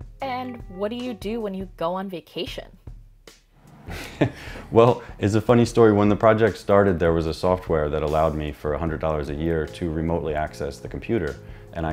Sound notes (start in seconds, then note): 3.8 chuckles